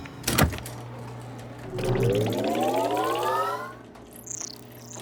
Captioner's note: computer whirring